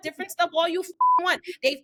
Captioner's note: beep